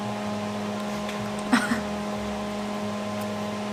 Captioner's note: laughs